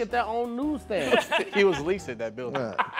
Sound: laughing

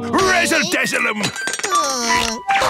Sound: groaning

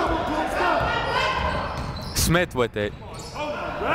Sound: shouting

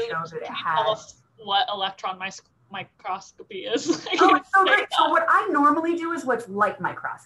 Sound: laughter

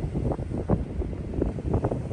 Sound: wind blowing

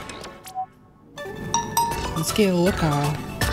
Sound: jingle; Nokia notification; jingle

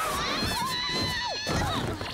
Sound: screaming

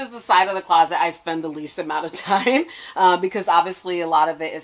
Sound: giggles

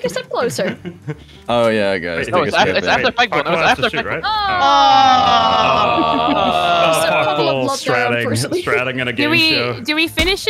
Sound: murmuring

